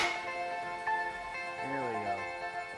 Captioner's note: gate clicks